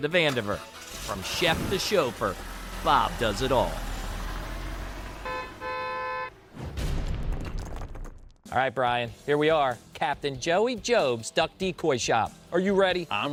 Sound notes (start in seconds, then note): 5.1 horn beeps